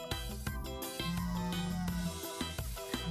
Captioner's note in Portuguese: celular vibrando